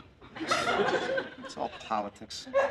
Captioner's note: laughter